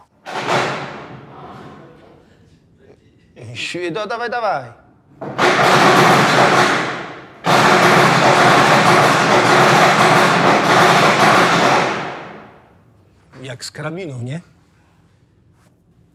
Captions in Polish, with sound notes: [głośny stukot] Dawaj, dawaj! [głośny stukot] Jak z karabinu, nie?